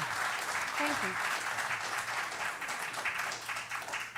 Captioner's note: cheering